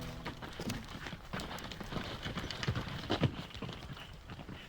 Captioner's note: hooves clacking